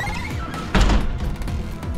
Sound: door closed

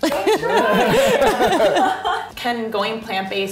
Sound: laughing

